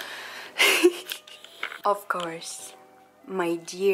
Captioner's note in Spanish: risas lindas